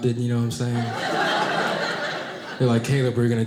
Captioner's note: audience laughing